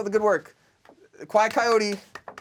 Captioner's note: loud clapping